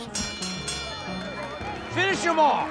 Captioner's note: bell ringing